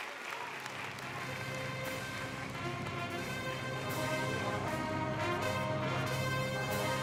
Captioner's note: cheers and Applause